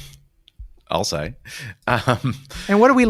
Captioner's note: laughs